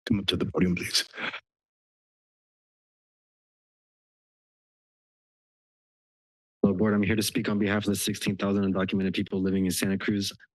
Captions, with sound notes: Come up to the podium, please. [silence] - Well, Board, I'm here to speak on behalf of the 16,000 undocumented people living in Santa Cruz.